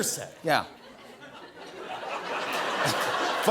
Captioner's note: laughter